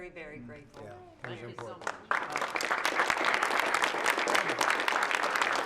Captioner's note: applause